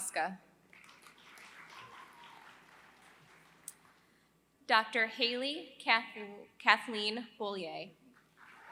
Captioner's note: applause; applause